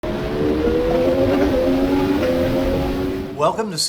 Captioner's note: vehicle engine revving